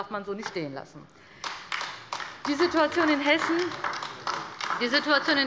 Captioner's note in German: Beifall bei der LINKEN